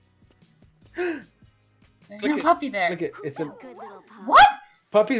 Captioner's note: gasp